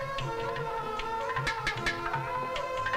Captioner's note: Tapping